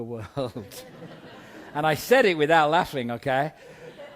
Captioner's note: chuckles